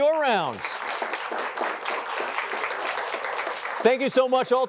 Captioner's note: applause